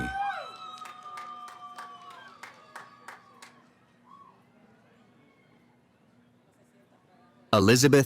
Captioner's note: cheering